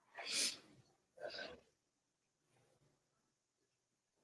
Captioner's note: sniffles